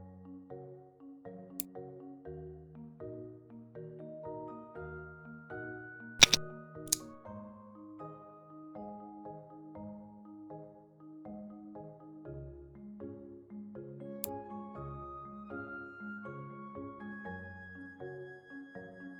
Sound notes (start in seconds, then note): 1.5 click sound; 2.7 calm music; 6.2 click sound; 14.2 click sound